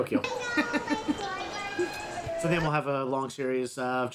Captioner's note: children laughing